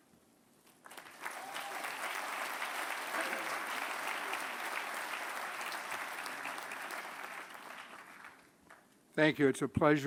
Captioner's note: applause